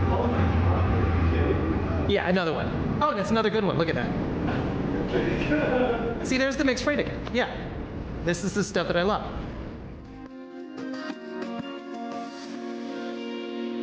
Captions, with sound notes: - Oh my God. - Yeah, another one. Oh, and it's another good one. Look at that. (producer laughs) See, there's the mixed freight again, yeah. This is the stuff that I love.